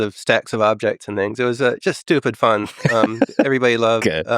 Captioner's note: Lex laughing